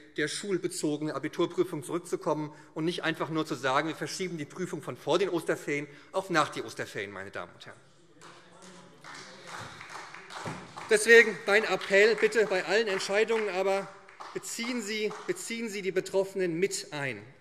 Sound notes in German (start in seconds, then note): 8.5 Beifall